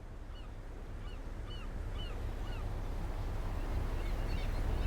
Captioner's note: seagulls squawking and waves crashing